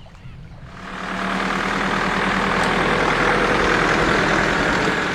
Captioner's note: engine noise